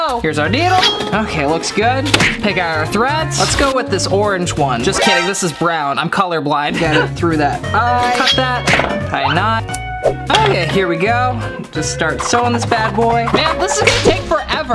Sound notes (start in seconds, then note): 6.6 laughing